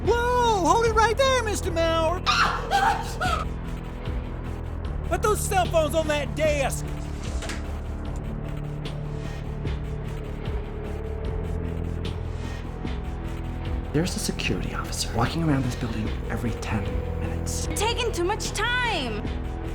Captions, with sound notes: - Whoa! Hold it right there, Mr. Mower! [screams] Put those cell phones on that desk! - There's a security officer walking around this building every 10 minutes. - You're taking too much time!